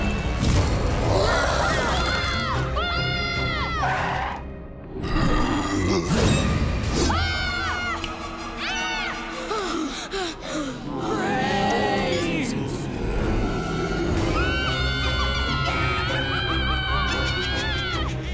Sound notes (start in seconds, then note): 1.1 screaming; 7.0 screaming; 9.6 gasping; 13.6 screaming